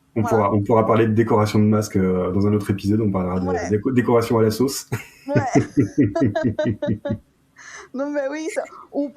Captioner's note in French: rires